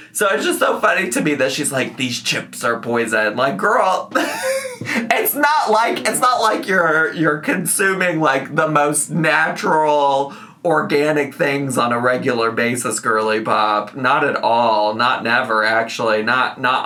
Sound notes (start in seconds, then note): 4.1 laughs